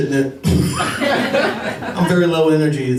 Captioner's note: laughter